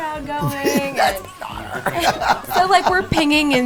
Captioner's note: laughing